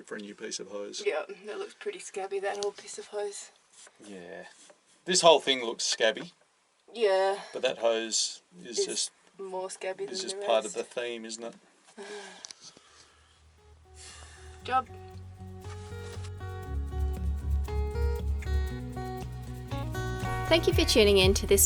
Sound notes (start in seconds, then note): 12.9 laughs; 15.9 upbeat jazz music